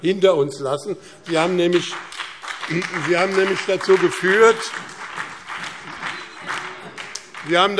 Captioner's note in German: Beifall BÜNDNIS 90/DIE GRÜNEN, CDU und DIE LINKE